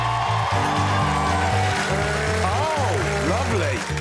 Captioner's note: cheering and applause